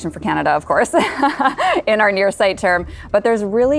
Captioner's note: laughs